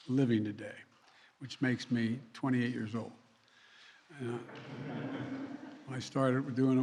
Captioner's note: laughter